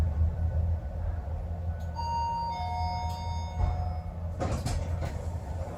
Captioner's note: chime